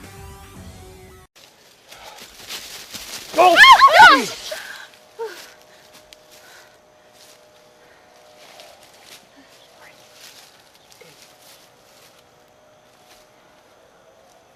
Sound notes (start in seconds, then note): 3.3 screams